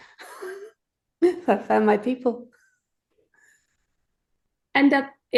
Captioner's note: laughs